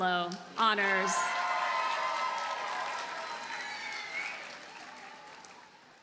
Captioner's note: audience cheers and applauds